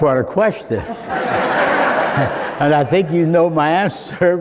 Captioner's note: laughing